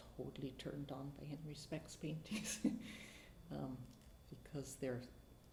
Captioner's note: chuckles